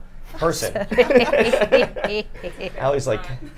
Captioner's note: group laughs